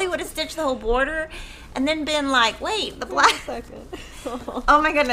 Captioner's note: laughs